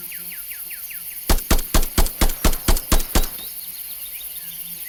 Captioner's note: gun blasting